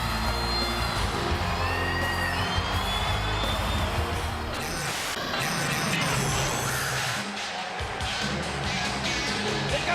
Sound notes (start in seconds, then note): 4.5 TV static crackling; 7.7 funky rock music